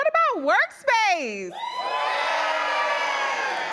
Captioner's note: cheering